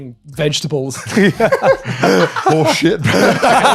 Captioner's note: laughs